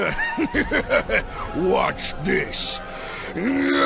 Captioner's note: evil laugh